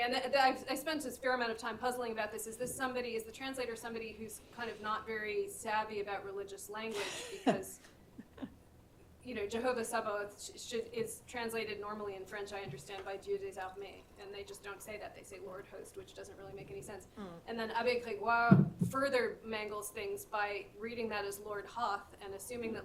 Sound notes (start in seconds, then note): 13.3 non-english speech; 18.2 french